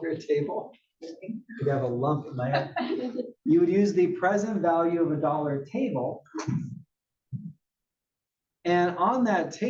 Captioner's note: laugh